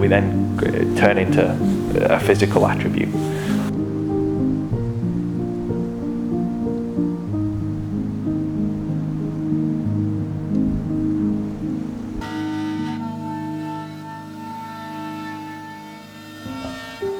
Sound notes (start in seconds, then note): 5.7 gentle piano music; 12.2 power tool drilling; 16.8 gentle piano music